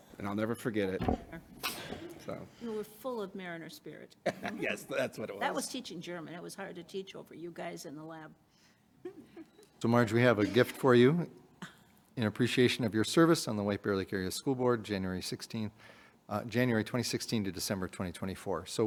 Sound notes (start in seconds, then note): 4.2 laughing